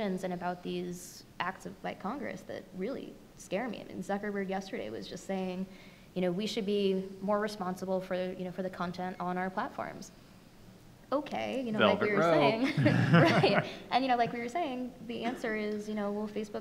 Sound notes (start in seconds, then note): 12.4 laughing